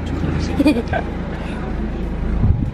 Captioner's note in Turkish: GülmeSesi